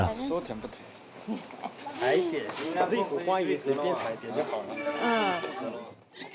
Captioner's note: Chinese spoken audio